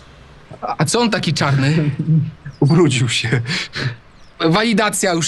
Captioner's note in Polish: śmiech